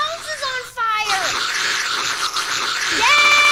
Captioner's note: extreme sucking noises